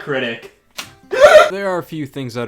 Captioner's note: gasps